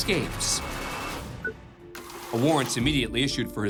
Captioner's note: computer beeps